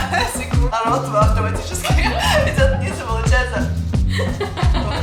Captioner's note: laughs